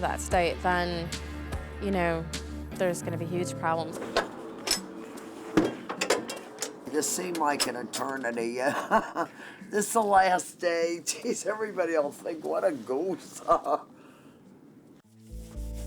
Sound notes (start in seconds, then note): 8.4 laughs; 13.4 laughs